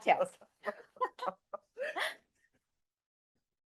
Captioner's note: both laughing